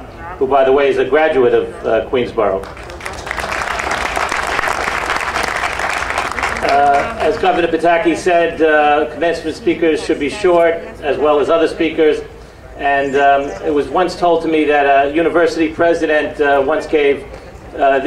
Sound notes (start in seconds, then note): 2.6 audience applauding